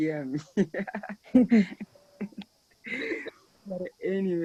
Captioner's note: panelist laughs